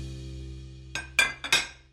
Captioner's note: dishes clatter